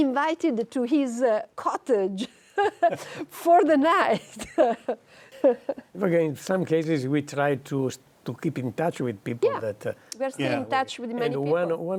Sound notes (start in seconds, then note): 5.3 laughing